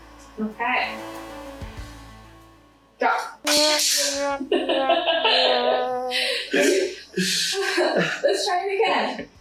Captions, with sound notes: Ok Drop! [Incoherent giggling] Let's try it again